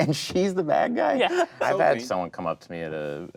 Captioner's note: laughing